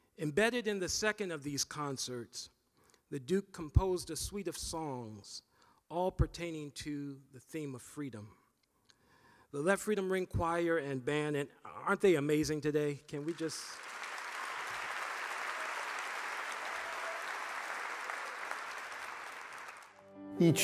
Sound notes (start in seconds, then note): 13.2 audience applauding